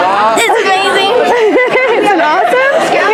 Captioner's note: Leslie laughs